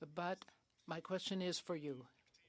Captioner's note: speaking French